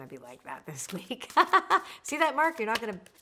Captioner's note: laughing